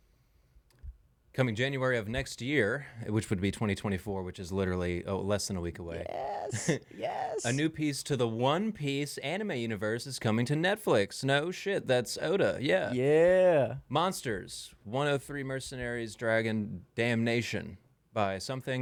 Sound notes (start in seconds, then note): 13.2 laughing